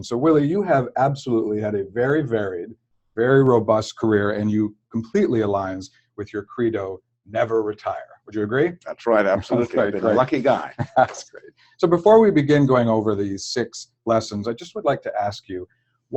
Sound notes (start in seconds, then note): 8.8 laugh